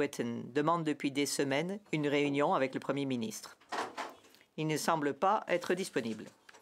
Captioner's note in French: voix de l'interprète